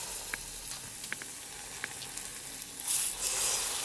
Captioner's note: sizzling oil